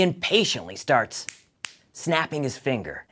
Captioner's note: snapping sound